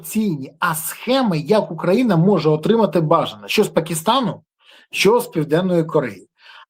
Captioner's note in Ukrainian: сопіння